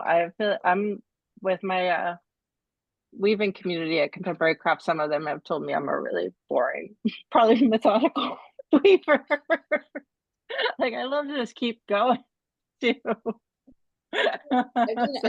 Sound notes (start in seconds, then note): 9.3 laughs; 14.2 laughs